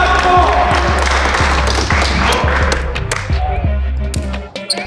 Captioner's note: all applauding; upbeat music